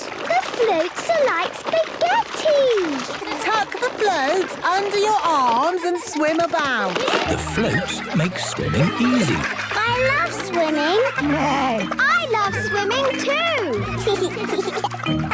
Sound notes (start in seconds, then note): 11.5 neighs; 14.3 giggles